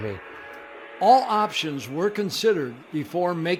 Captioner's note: voiceover